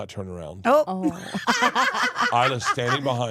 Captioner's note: laughs